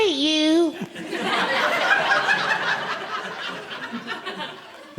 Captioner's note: audience laughing